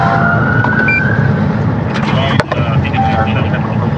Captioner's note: policice e siren